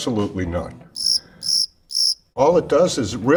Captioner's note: insect chirping